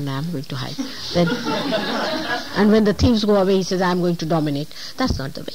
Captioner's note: laughter